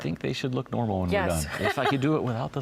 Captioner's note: laughs